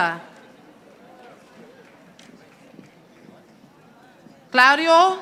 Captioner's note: audience applauding